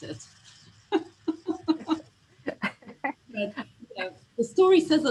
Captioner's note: laughs